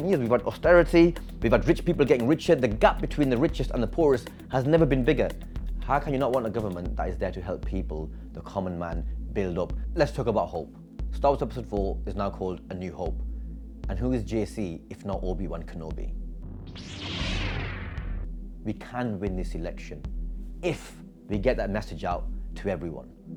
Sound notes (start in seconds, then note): 16.6 lightsaber sound